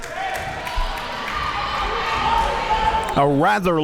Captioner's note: crowd cheering